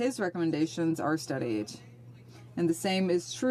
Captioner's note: speaking French